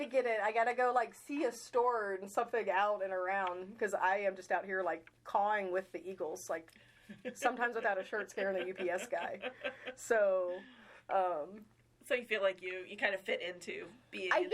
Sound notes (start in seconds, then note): 9.4 laughing